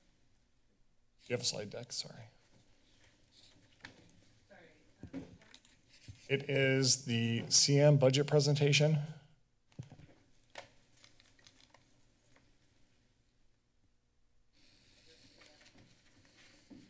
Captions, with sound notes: Do you have a slide deck? Sorry. - Sorry. - It is the CM budget presentation. [pause] [flipping papers]